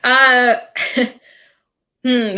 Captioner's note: laughing